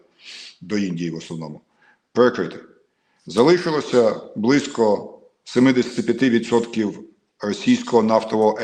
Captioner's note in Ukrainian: сопіння